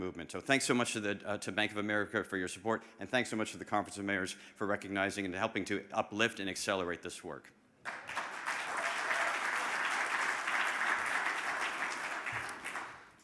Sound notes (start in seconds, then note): 7.8 audience applauding